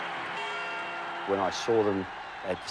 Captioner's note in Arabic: الجمهور يصرخ